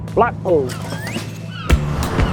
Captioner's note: seagulls crying; upbeat music